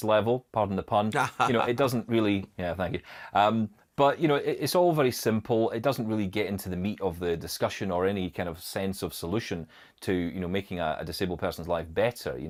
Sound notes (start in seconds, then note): 1.1 laughs